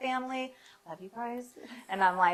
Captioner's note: laughs